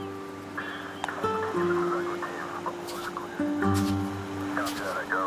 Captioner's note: distant radio chatter; feet crunch on sand